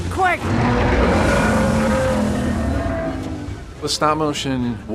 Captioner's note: Dogfish growling